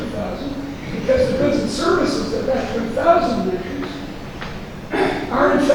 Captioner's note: rustling drowns out speaker